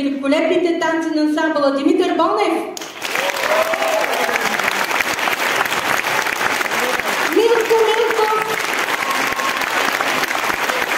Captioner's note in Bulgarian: аплодисменти